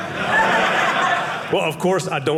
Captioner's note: audience laughing